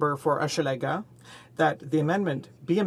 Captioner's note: speaking French